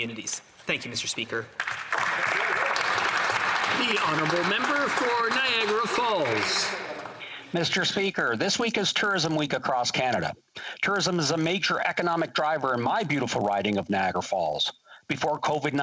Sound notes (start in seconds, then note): 5.6 some Applause